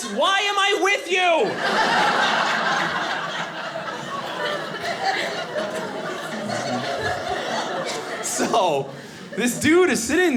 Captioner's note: audience laughing